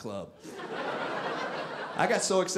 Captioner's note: audience laughing